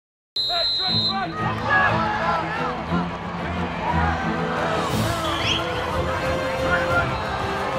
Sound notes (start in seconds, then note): 0.3 whistle blows; 0.4 upbeat music; 3.8 crowd cheering and clamoring